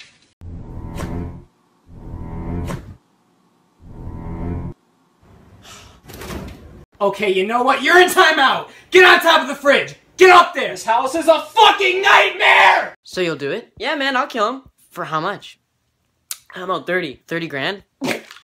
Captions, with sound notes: (suspenseful music playing) (relieved sigh) okay you KNOW WHAT? YOU'RE IN TIMEOUT GET ON TOP OF THE FRIDGE, GET UP THERE this house is a fUCKING NIGHTMARE So you'll do it? yeah, man, I'll kill him For how much? I don't know, thirty. Thirty grand?